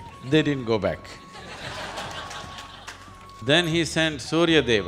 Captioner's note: laughter